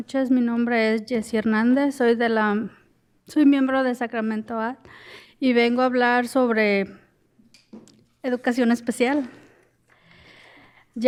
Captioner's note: speaking in spanish